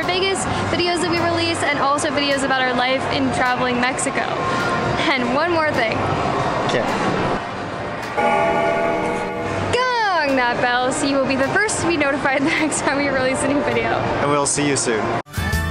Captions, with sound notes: Vegas videos that we release and also videos about our life and traveling Mexico. And one more thing. - Okay. (bell toll) - Gong that bell so you will be the first to be notified the next time we release a new video. - And we'll see you soon.